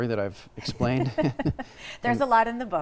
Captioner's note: both laughing